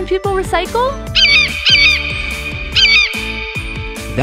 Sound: eagle screech

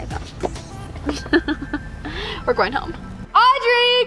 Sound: chuckles

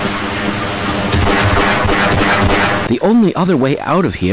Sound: tram moving; glocks shooting; bullets impacting

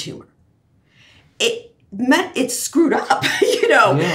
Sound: laughs

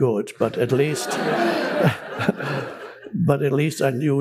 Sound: public laughing

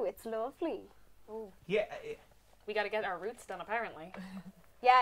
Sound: stuttering

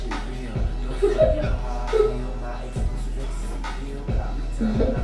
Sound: giggles

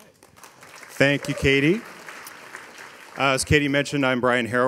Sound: audience applauding

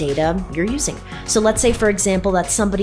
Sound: swoosh

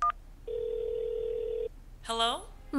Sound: telephone rings; telephone touchtones

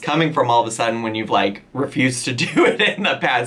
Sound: laughs

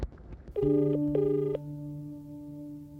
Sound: line ringing

